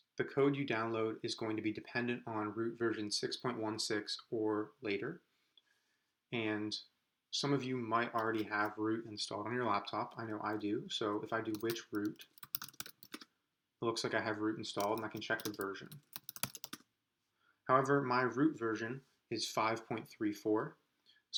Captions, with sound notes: The code you download is going to be dependent on ROOT version 6.16 or later. And some of you might already have ROOT installed in a laptop, I know I do. So if I do which root, (typing) looks like I have ROOT installed, I can check the version. (typing) However, my ROOT version is 5.34,